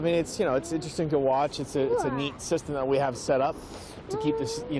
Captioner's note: sound OF RUSHING WATER